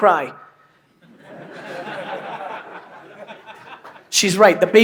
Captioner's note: laughter